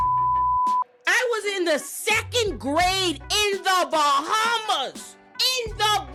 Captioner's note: beep